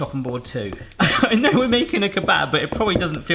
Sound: laughs

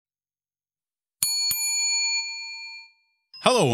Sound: bell ringing

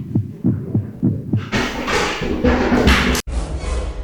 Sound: crashing!!!

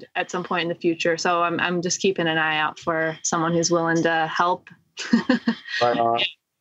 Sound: laughter

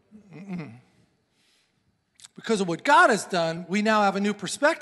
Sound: sighs

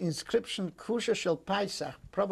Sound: non-english speech

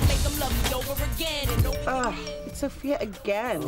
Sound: phone vibrates

